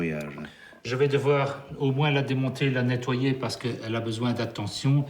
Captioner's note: speaking in foreign language